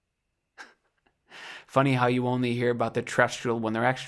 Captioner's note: chuckles